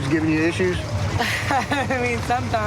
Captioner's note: laughs